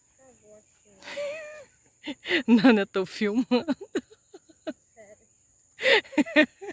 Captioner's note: laughs